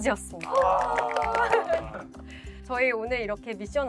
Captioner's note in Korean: 환호성